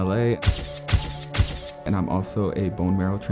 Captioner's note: camera shutters